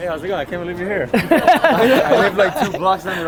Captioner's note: group laughter